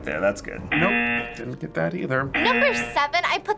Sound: buzzer rings

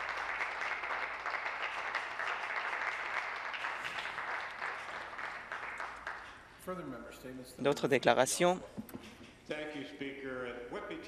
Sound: applause

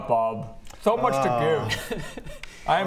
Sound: disgusted sigh

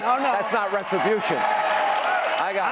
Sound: audience cheering

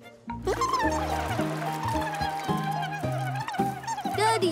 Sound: murmuring

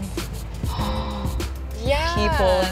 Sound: gasps

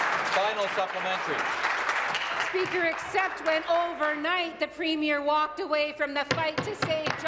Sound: applause

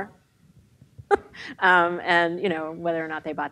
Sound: laughs

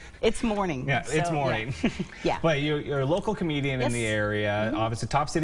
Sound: laughter

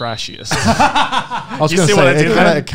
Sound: laugh

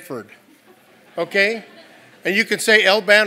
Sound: laugh

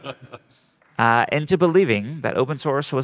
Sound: group laughing

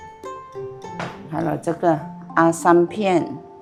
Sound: slip

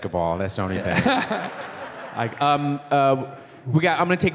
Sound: laughing

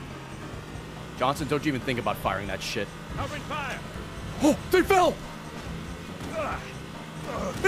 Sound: gasps

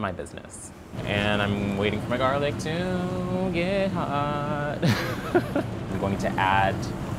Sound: laughing

